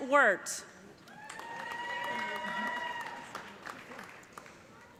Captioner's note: cheers and applause